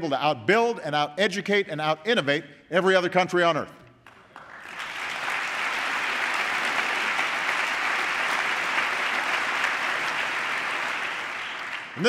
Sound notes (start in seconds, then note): 5.9 applause